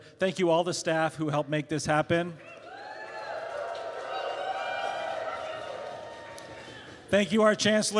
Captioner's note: cheers; applause